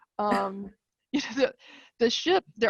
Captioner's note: chuckling